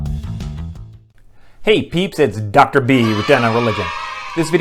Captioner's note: kids cheering